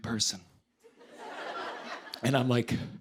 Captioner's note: laughter